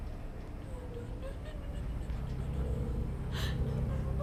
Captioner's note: whimpering